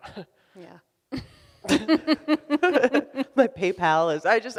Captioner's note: both laughing